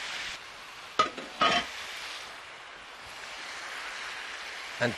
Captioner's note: pan continues sizzling